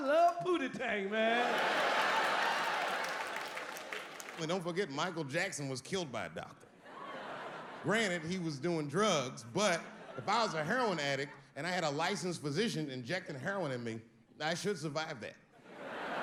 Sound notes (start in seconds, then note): 1.0 audience laughing; 15.6 audience laughing